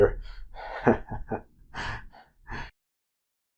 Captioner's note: chuckles